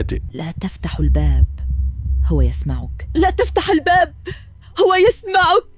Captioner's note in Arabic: ضحك